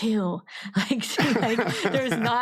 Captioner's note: laughs